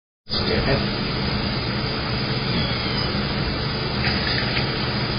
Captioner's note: meows